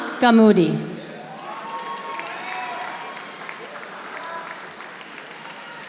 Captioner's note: audience applauding